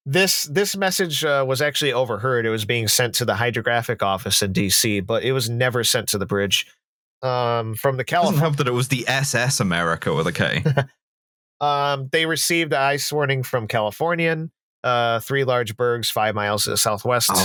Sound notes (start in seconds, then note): 10.6 laughs slightly